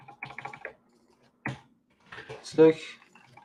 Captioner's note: keyboard clacking